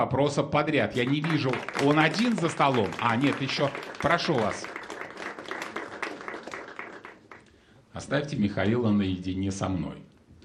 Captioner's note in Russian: аплодисменты